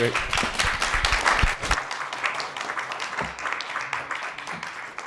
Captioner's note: attendees clapping